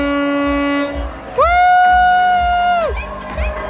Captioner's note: cheering